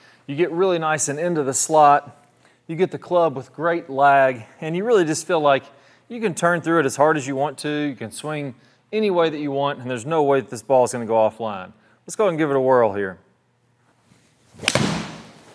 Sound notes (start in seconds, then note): 14.0 swish of golf club; 14.6 click of golf ball being hit